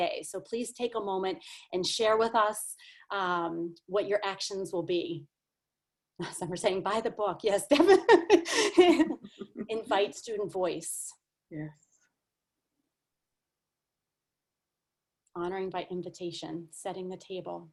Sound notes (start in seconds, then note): 8.3 laughs